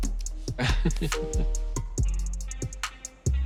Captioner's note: laughing